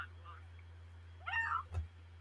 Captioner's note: fox screams